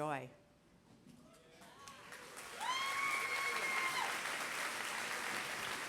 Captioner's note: applause